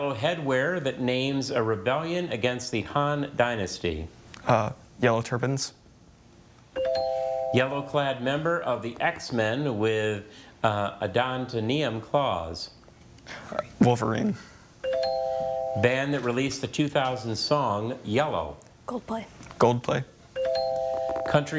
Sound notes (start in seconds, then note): 6.8 tone chimes; 14.8 tone chimes; 20.4 tone chimes